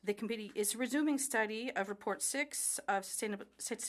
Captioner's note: speaking French